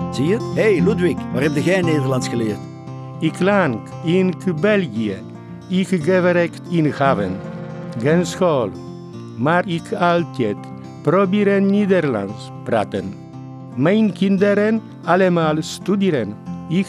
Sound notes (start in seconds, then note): 3.3 with a strong accent